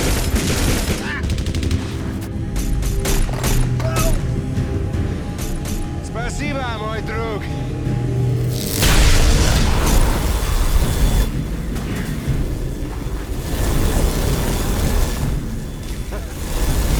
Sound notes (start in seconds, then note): 0.0 guns firing; 6.3 speaking in a foreign language; 8.3 eye firing; 14.1 fire roaring